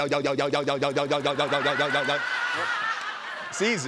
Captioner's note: laughter